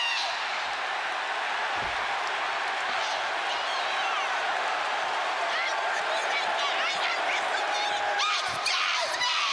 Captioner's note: applause